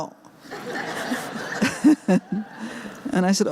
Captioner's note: laughter